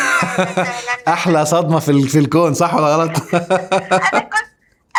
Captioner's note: laughs!